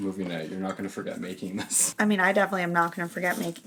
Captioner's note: laughs